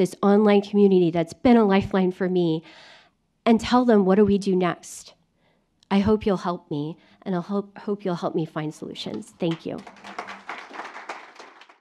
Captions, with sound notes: this online community that's been a lifeline for me, and tell them what do we do next. I hope you'll help me, and I'll hope you'll help me find solutions. Thank you. [APPLAUSE]